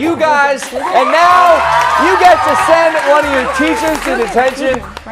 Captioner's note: cheers and applause